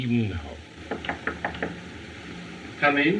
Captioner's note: knocking